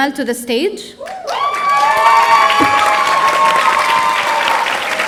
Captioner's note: audience cheering